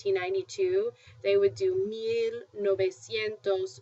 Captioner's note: spanish